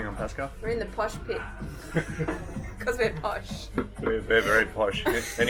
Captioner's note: laughs